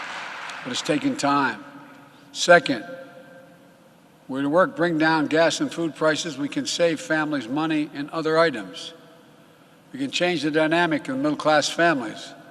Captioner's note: applause